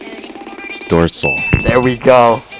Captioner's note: bell dings